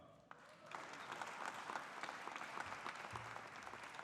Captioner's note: audience applauding